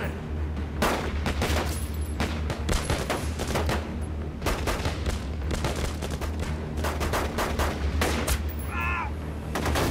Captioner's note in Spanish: Disparos